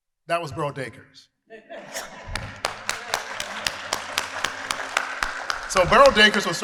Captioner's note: applause